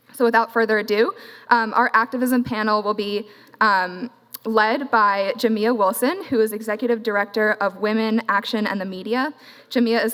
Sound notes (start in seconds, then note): none